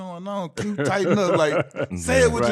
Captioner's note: laughing